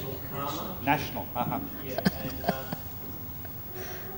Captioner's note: laughs